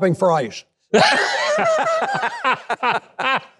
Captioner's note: laughing